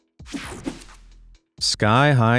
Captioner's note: logo whooshing